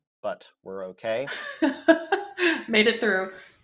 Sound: laughs

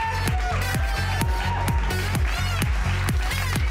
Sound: attendees cheering; up tempo electronic music

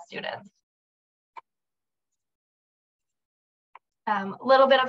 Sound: silence

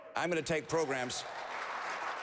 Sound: applause

